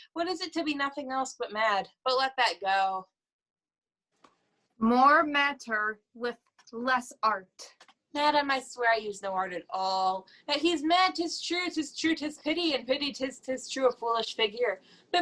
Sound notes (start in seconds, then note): none